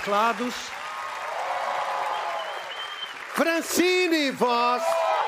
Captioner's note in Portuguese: aplausos